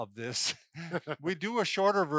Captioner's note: laugh